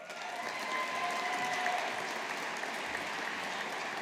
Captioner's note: audience applauding